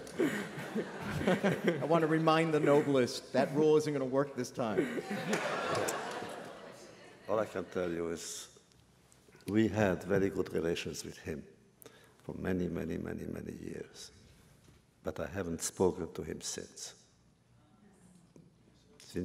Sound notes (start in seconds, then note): 4.6 laughter